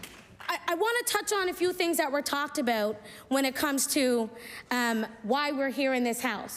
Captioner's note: applause